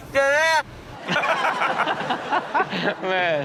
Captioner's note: all laugh